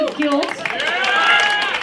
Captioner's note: applause